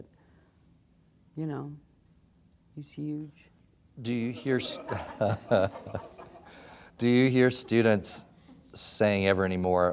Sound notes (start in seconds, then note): 4.6 laughter